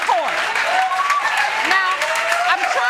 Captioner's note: audience cheering